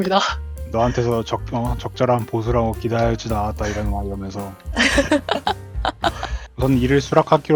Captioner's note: laugh; laugh